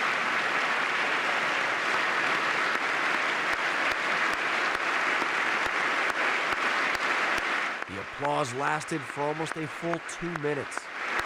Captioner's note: applause